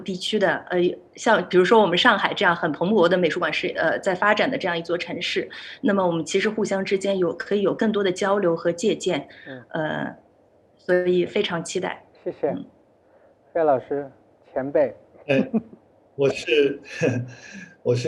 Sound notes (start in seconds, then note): 15.3 laughs